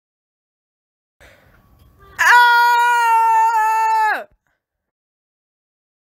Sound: scream

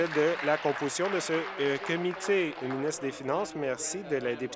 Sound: applause

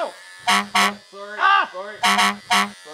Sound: honking

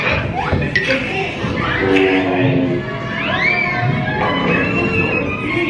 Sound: bright cartoon sound effects

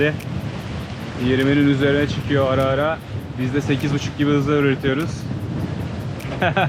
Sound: wind

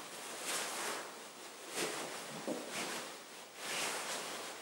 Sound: cloth rustling continues

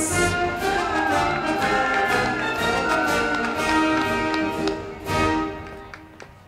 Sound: band music; crowd clapping

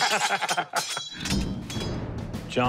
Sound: laughter

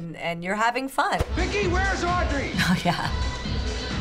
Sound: chuckles

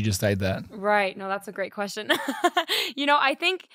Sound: laughing

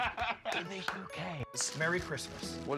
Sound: laughs; lowered voice

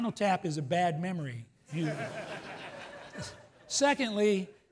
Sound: laughs

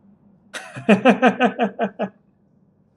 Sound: laughs

